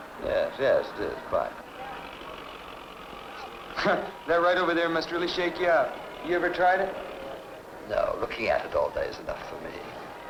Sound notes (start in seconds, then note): 2.0 carnival ride motor revving